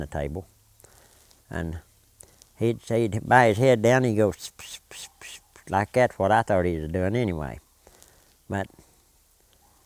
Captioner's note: whispering